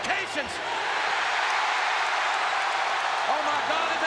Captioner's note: audience cheering